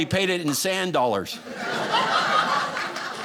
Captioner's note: audience laughing